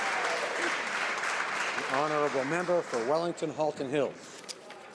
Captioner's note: some Applause